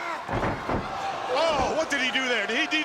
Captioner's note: crowd cheering